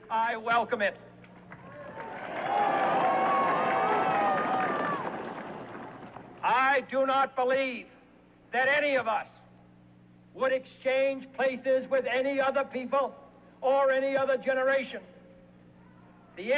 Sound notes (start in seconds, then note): 1.5 cheers